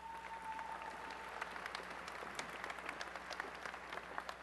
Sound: applause

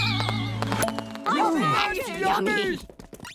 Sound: clamoring

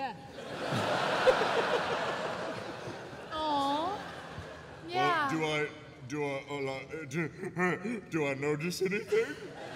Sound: stammering

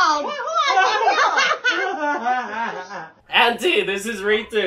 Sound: laughing

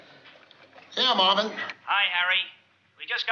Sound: on walkie-talkie

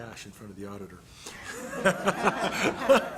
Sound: laughter

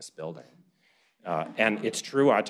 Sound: laughter

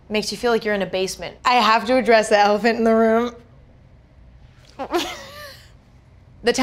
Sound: chuckles

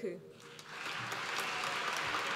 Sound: applause

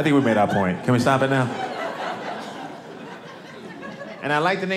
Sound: audience laughing

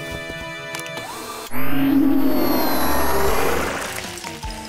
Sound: whirring; dramatic music

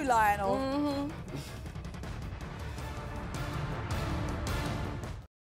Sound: laughing

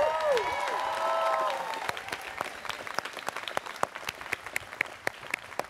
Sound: students cheering

